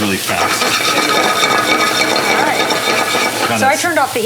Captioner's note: scraping